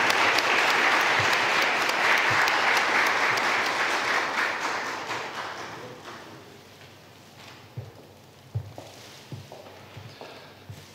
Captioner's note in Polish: oklaski